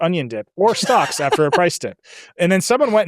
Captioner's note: laughs